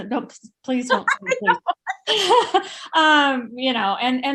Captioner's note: laughing